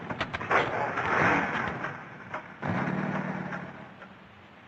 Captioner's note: engine revving